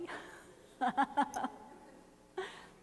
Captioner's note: laughing